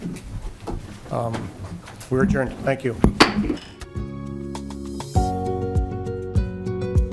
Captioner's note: gavel